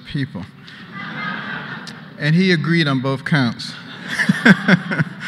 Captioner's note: laughter